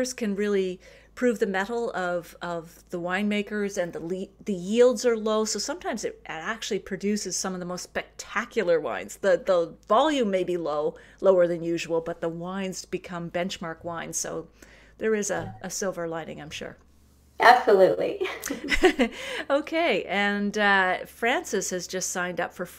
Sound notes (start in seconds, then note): 18.2 laughter